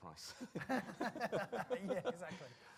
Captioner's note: laughter